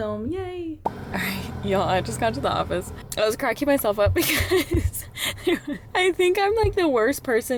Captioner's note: laughter